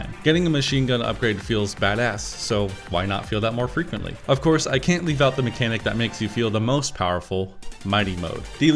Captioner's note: none